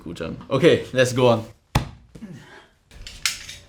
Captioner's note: slaps